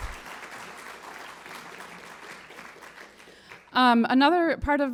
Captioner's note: applause